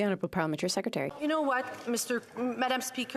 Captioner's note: applause